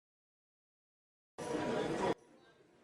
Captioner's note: muffled crowd chatter permeates the air